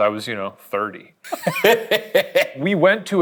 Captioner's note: laughs